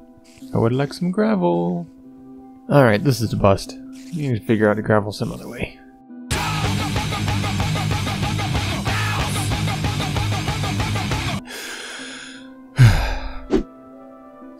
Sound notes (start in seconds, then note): 11.4 inhales deeply; 12.8 exhales